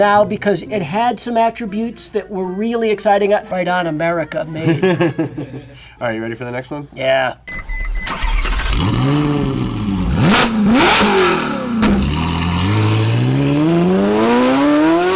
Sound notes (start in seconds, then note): 3.2 laughs; 7.6 engine starts; 7.9 engine revs